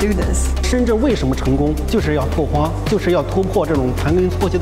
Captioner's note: speaking in Chinese